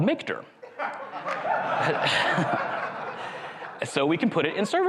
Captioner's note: crowd laughs